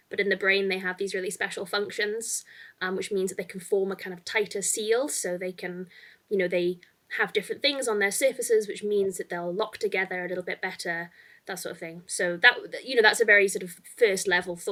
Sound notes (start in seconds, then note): none